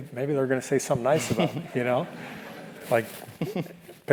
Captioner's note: laugh